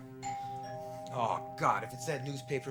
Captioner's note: doorbell rings